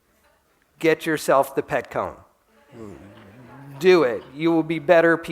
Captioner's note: laughter